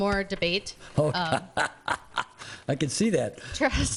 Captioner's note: laughs